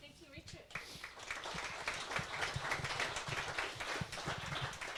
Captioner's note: audience claps